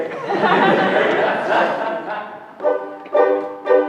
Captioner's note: laughter; ukelele strums